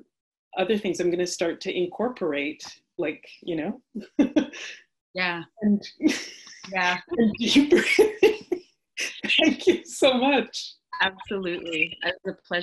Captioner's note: laughs